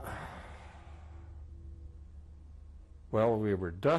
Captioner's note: sighs